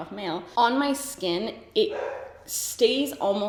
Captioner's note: dog barks